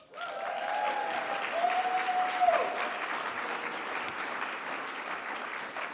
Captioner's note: audience cheers and applauds